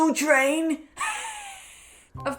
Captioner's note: wheezing laugh